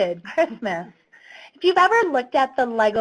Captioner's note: laughs